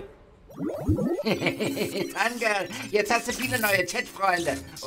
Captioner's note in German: Lacht